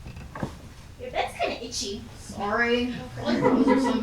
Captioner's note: moans